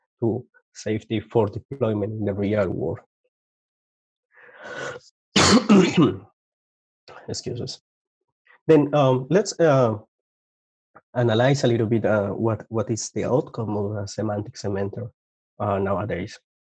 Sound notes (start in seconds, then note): 5.3 coughs